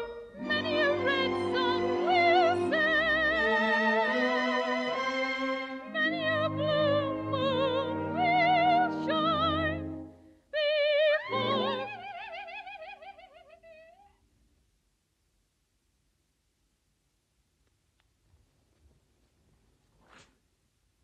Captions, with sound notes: Many a red sun will set Many a blue moon will shine before.. *Gertie cackles*